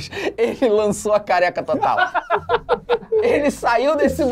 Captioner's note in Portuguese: risadas